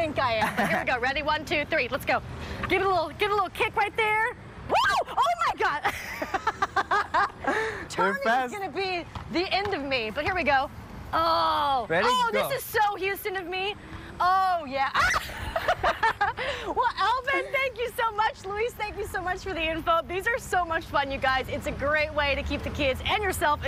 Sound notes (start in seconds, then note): 15.2 laughter